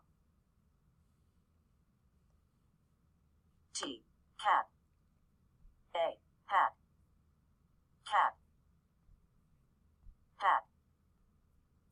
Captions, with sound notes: [computer voice] T. Cat. A hat. Cat. [computer voice]Hat.